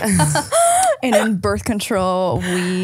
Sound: laughing

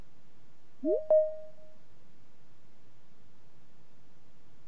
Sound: digital chime

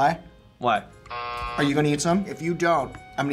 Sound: buzzer rings

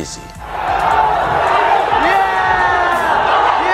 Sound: crowd screaming

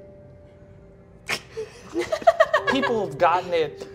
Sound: all laughing

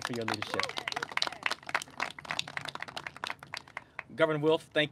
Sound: clapping

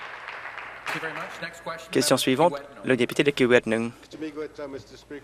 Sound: applause

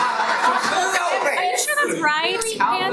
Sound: everyone laughs; loud chattering and protesting

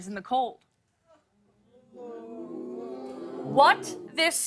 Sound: audience oohs

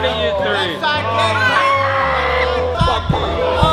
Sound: screams

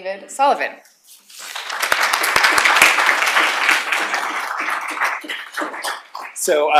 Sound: applause

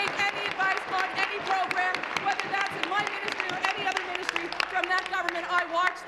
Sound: applause

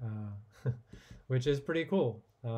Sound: chuckling

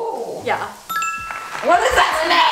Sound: correct bell rings

